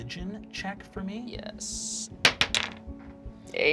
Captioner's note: dice clacking